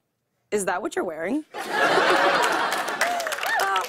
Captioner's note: laughter and applause